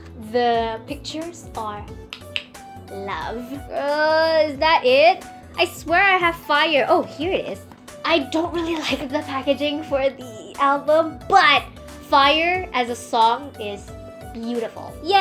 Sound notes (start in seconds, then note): 2.1 french chef kisses